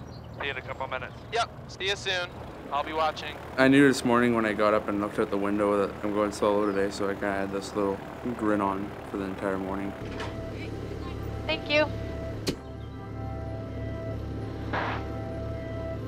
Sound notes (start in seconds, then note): 12.8 door shuts